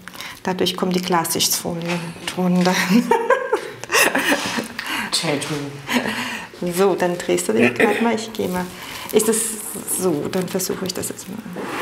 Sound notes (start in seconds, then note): 2.7 she laughs